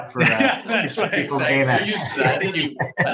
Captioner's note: everyone laughing